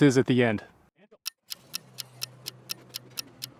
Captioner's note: sound of ticking clock